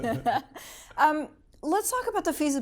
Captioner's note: laughing